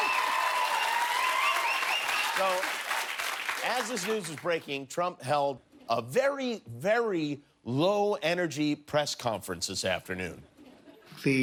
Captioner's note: cheers and applause